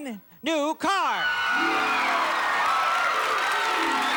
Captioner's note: cheers and applause